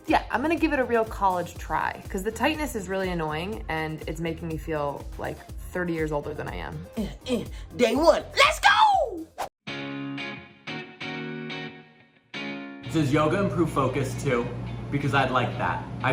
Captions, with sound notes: - Yeah, I'm gonna give it a real college try. 'Cause the tightness is really annoying and it's making me feel, like, 30 years older than I am. - (grunts) Day one, let's go! (upbeat music) - Does yoga improve focus too? Because I'd like that.